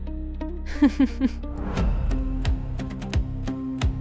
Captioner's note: laughs